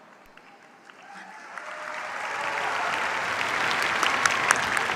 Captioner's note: cheers, applause